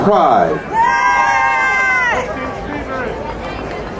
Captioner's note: crowd cheering